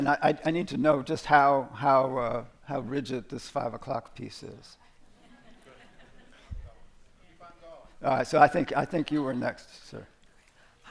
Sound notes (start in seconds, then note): 5.1 laughter